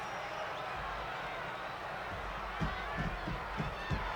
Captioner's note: crowd cheers